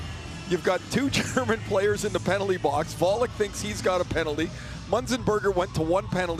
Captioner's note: chuckles